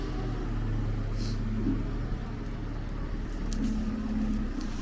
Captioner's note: engine running